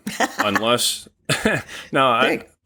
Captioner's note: laughing